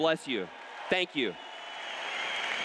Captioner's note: cheers